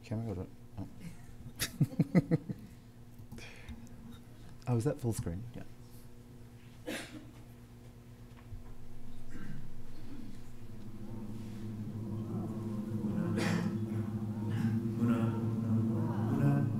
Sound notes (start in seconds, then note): 3.1 laughs